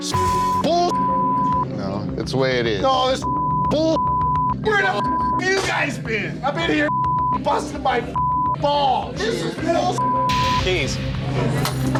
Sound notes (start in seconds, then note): 3.2 beep; 9.9 beep; 11.6 keys clattering